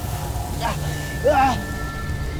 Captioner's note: grunts & groans; powerful whoosh-crackle; groans, then grunts